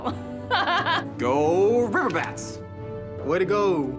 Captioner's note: laughs